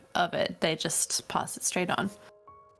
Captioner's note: none